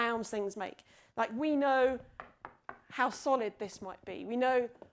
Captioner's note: knocking